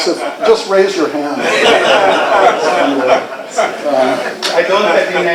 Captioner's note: laughter